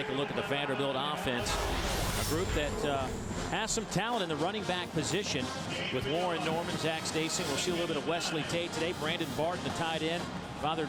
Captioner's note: crowd noise